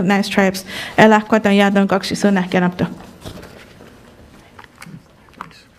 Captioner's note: speaks in a foreign language